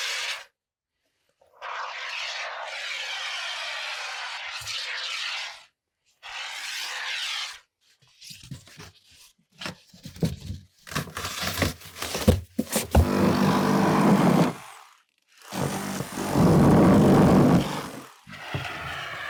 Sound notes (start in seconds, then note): 1.6 foam spraying; 10.3 foam squeaking; 13.7 power tool whizzing